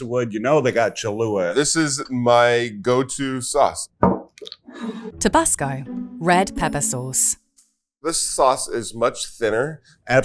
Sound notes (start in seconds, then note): 4.0 bottle thuds and scrapes